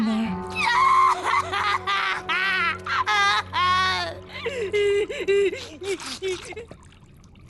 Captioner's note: wailing